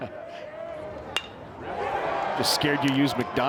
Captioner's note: bat dings